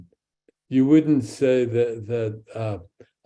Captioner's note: speaks in Hebrew; speaks in Hebrew